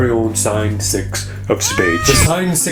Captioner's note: cat meows